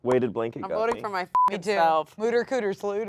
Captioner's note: beeps